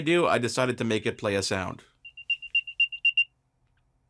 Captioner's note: beeps